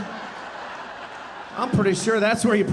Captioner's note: audience laughing